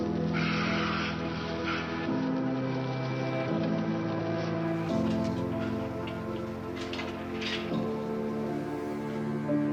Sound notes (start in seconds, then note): 0.6 women hissing; 5.4 somber music